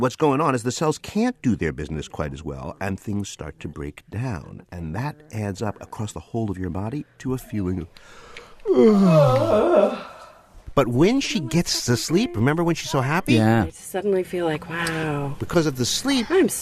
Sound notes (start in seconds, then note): 8.1 yawns